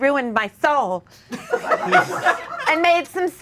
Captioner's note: audience laughing